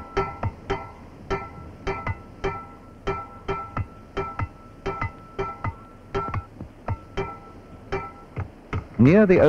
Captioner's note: sound of tools